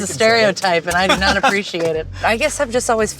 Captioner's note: laughter